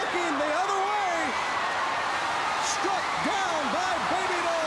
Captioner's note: crowd cheering